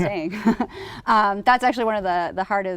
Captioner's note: laughter